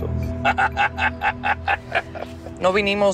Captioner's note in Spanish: Carcajadas